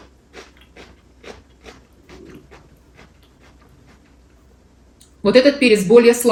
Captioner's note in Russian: фыркает